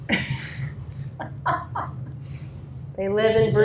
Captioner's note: laughter